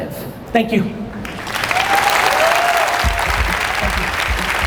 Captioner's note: audience applause and cheers